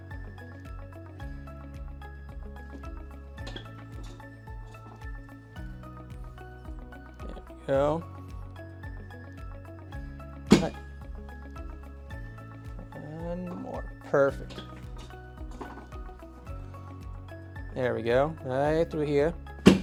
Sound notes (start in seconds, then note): 0.2 gentle upbeat music; 3.5 table clatters; 10.5 table thuds; 15.5 table clatters